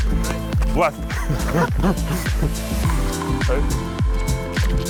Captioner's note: both laugh